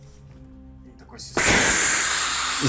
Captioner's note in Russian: звук дымовой гранаты